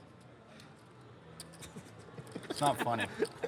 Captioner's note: laughing